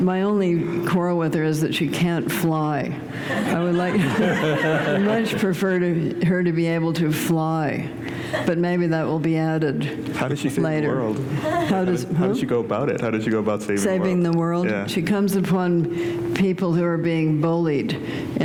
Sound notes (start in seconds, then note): 3.2 laughter